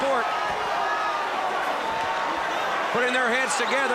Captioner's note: crowd cheering